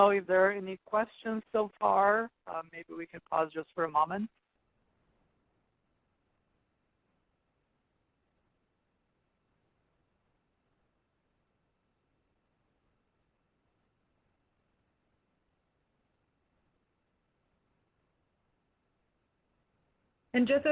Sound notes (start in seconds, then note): 6.5 pause